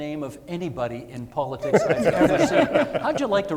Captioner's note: panellists laughing